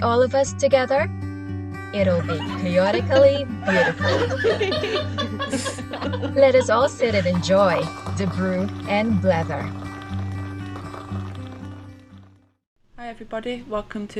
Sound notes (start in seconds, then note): 5.4 laughter